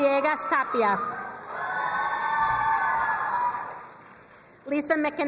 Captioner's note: crowd cheering and applauding